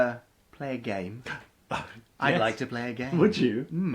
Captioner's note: gasps